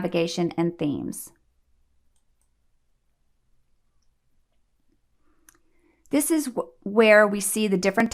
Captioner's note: click